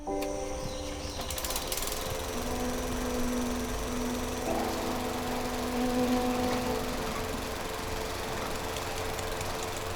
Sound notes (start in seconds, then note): 1.3 lawnmower engine whirring